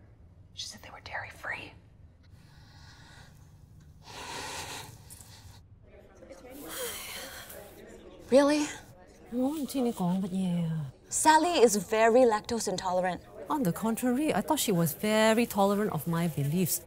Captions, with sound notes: [WHISPERS] She said they were dairy-free. Really? [SPEAKS IN CANTONESE] [MALAYSIAN ACCENT] Sally is very lactose intolerant. [MALAYSIAN ACCENT] On the contrary I thought she was very tolerant of my beliefs.